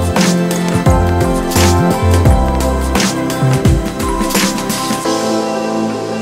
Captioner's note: crackle